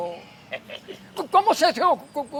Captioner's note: laughs